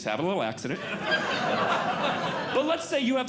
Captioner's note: audience Laughing